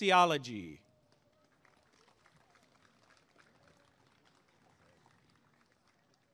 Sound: applause and cheering

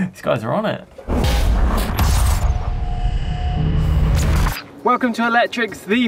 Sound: percussive rumbling

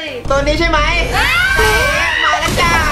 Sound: screaming

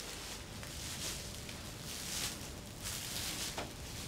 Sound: crinkling footsteps

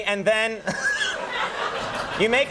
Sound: laughter

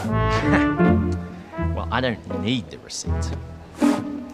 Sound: laughs

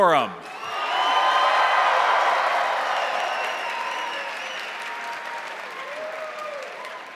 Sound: crowd cheering; crowd applauding

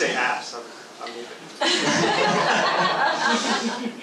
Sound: laughs

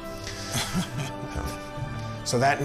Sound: chuckles

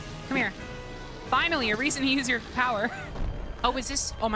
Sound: laugh

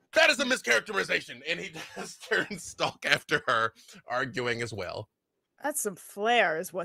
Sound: laughs

